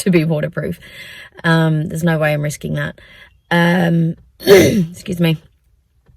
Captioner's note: clears throat